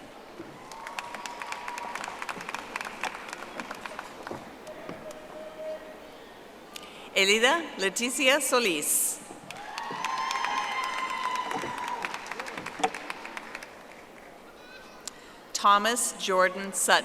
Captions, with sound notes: Logan W. Sheperson. (audience applauding) Elida Leticia Solis. (audience applauding)